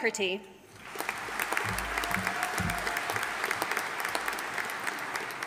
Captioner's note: audience applauding